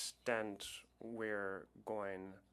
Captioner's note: speaking French